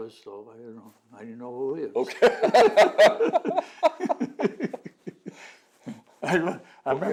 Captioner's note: laughter